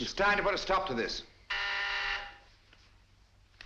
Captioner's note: buzzer